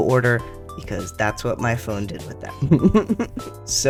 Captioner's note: laugh